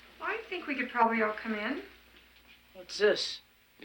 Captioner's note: none